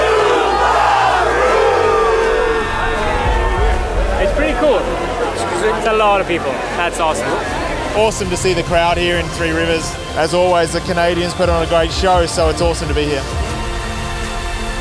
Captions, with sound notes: - [Crowd] Subaru! (cheering) - It's pretty cool, it's a lot of people that's awesome. - Awesome to see the crowd here in Three Rivers. As always the Canadians put on a great show so it's awesome to be here.